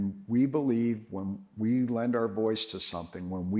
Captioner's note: none